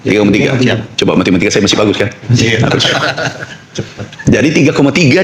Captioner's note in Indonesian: tertawa